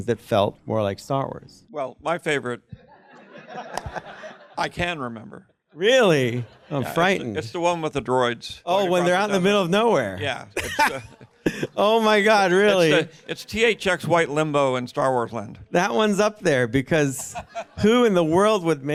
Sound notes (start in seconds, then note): 10.6 chuckles